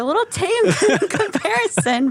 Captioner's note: laughing